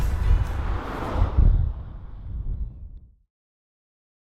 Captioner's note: car zooms